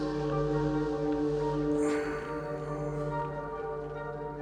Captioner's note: sighs